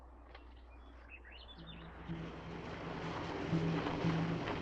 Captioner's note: birds chirping